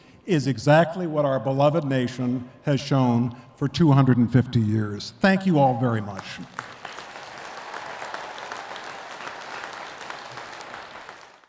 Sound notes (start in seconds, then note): 6.1 attendees clapping